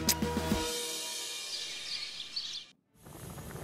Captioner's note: birds chirping